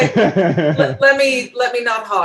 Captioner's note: overlapping chatter; laughs